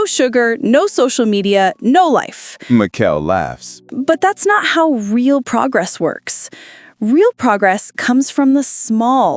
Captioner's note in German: lacht